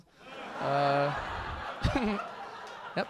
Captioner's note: audience laughing